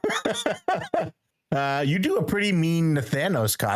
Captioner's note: laughing